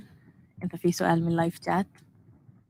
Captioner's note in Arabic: لغة أجنبية